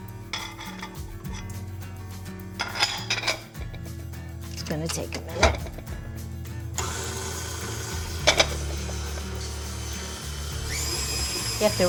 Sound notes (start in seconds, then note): 0.0 metal clinks; 0.3 cheerful acoustic music; 2.6 glass clinks; 6.0 cheerful acoustic music; 6.7 mixer whirs; 8.1 glass clinks; 9.6 cheerful acoustic music